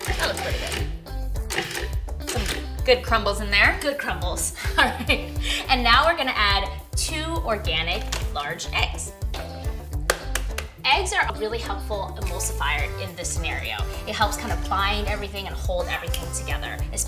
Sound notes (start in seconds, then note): 4.6 laughs; 9.8 cracking